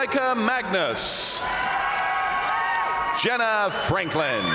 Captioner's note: crowd applauding; crowd cheering